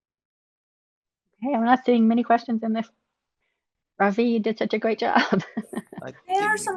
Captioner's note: laughs